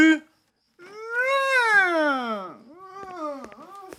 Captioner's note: whimpers